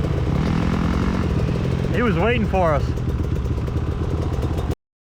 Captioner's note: engine revving